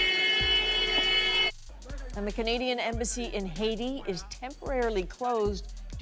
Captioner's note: horns